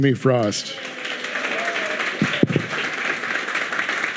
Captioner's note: audience clapping